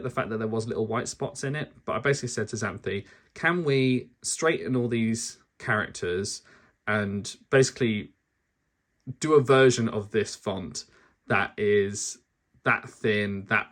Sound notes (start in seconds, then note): none